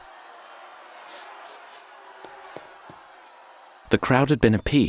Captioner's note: footsteps departing; woman sniffling